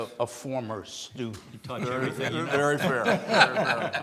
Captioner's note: laughs